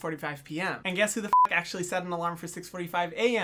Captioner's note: beep